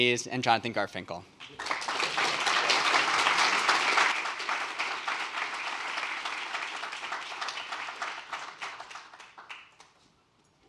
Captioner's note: applause